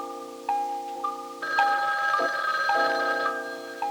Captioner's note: telephone ringing